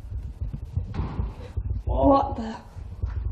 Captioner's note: loud bang